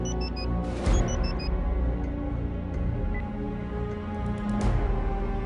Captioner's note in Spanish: Sonido al marcar